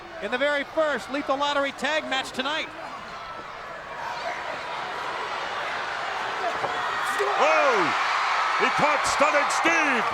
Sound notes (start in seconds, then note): 2.9 crowd cheering